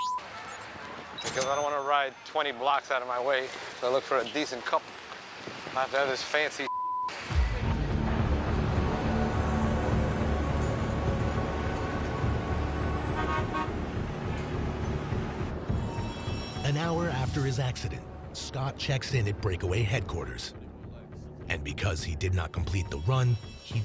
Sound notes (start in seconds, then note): 12.8 car horn honks